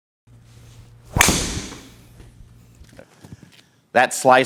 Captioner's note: club hitting